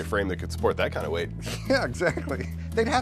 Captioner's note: laughing